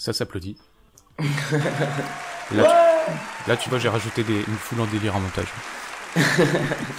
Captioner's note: laugh